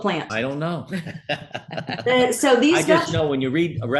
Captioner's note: laugh